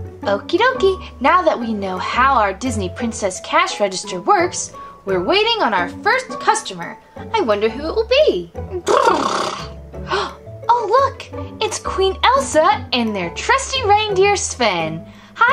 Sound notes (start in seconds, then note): 8.8 horse noises; 10.0 gasp